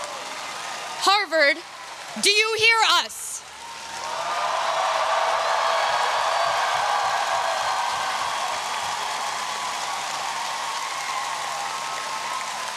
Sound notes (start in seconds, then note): 4.3 audience cheering